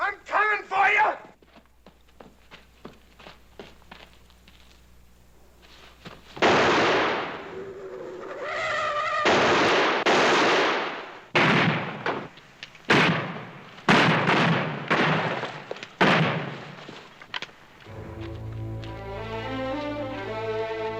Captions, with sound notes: I'm comin' for ya! [gunshot] [tires screeching] [gunfire] [intense music]